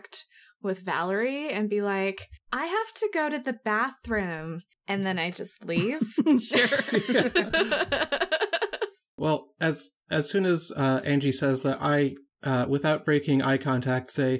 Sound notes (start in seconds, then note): 6.5 all laugh